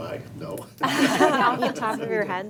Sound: board members laughing

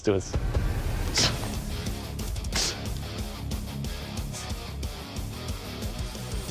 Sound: impact sounds

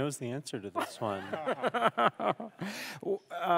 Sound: laughs

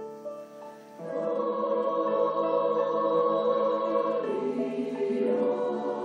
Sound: choir speaks in foreign language

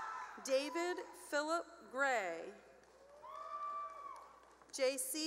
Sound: cheering; cheering

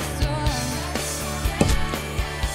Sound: thud

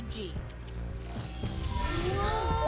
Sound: machine whirring

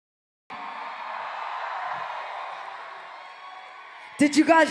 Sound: cheering

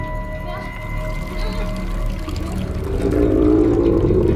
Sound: blood dripping

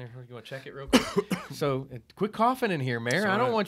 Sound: coughs

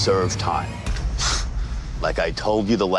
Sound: heavy sigh

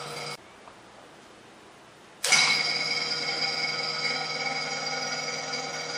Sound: sound of pump starting; sound of pump running

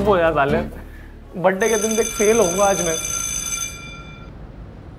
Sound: school bell

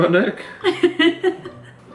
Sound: laughs

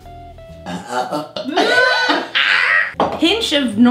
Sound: burping and laughing

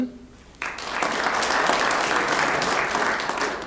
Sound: applause

